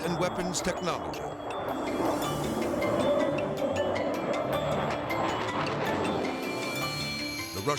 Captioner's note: upbeat music; jet roaring